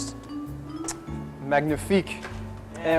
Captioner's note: clicks tongue